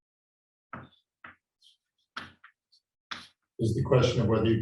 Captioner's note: chalkboard tapping loudly